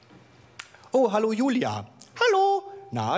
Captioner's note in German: hohe Stimme